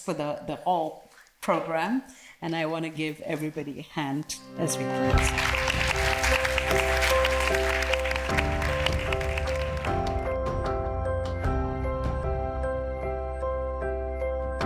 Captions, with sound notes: for the whole program. And I wanna give everybody a hand as well. (bright music) (audience applauds)